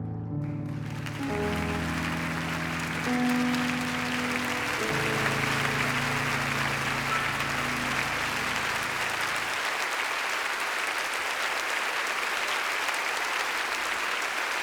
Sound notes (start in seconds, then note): 3.2 somber music ends; 10.8 audience applauds